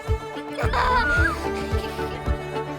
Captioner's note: child's laughter can be heard